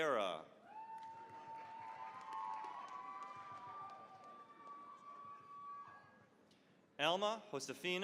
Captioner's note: cheering, applause